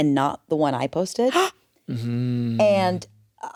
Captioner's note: gasps